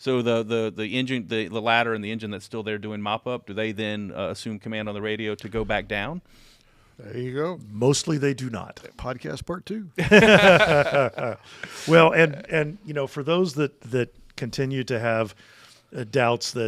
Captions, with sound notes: So the engine... The ladder and the engine that's still there doing mop up, do they then assume command on the radio to go back down? - There you go. - Mostly they do not. - Podcast part two. (group laughs) - Well, and you know, for those that that continue to have doubts